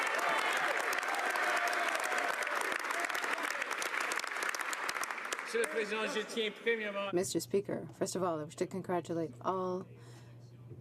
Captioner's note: some Applause